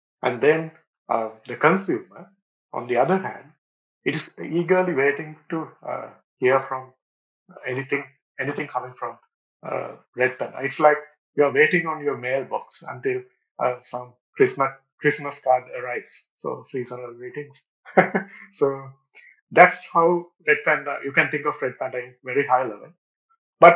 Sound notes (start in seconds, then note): 17.9 chuckles